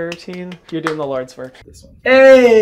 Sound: claps

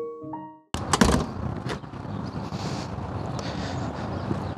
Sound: door closing

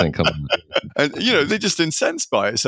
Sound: laughing

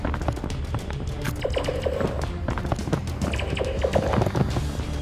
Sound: amidst the gunfire

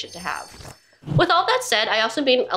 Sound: jingling sound

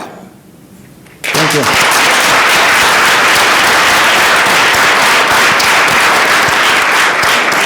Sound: audience applauding

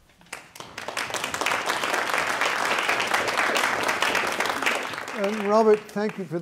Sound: audience applause

